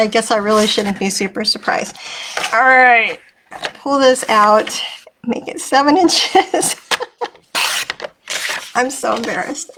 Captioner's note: laughing